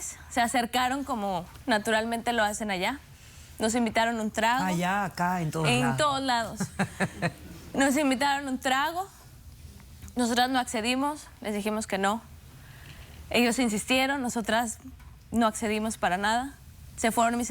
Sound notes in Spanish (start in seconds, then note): 6.5 risas